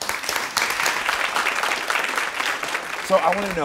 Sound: audience applauds

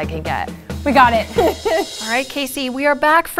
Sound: laughs

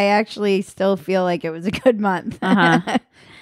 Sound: laughing

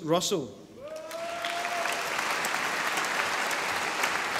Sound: audience applauding

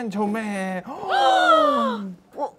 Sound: gasp

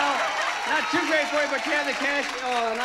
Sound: audience applauding

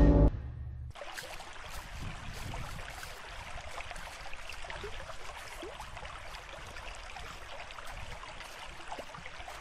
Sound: creek flowing, walking through leaves

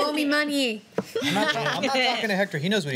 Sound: laughter

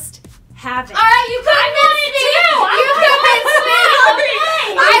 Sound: ladies chattering

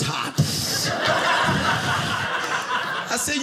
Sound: audience laughing

